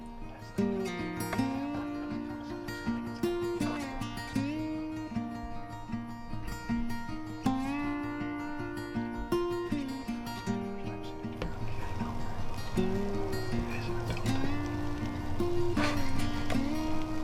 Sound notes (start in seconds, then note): 0.3 upbeat instrumental; 4.9 quiet whispering; 14.1 quiet whispering